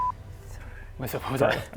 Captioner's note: whispers